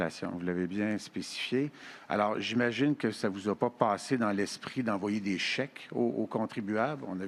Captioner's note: speaking French